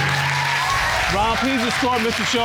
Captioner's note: audience applauds